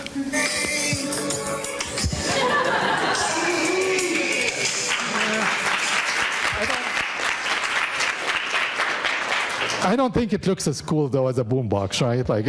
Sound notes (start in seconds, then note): 5.0 audience applauding